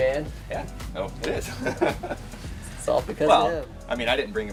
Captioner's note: laughs